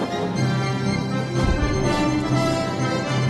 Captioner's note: punch thud